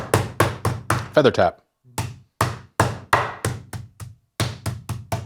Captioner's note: rolling pin thumping